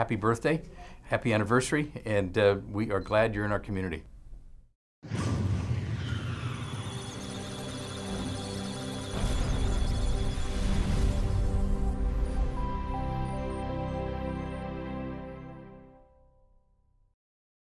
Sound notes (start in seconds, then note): 6.5 electronic Sounds of Data; 6.8 musical Tones